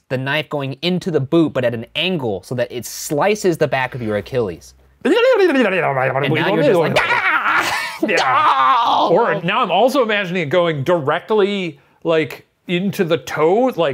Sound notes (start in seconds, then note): 6.9 screams